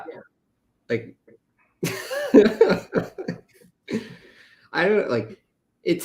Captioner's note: laughter